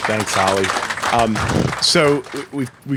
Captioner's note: applause